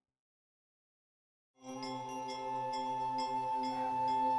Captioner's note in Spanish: suenan las campanas del templo